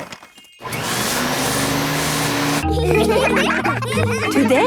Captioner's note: whirring; all laughing